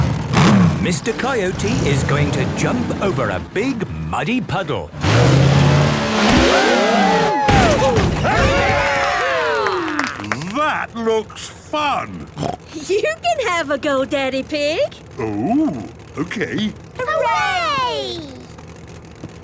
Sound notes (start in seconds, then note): 6.4 crowd; 8.8 applause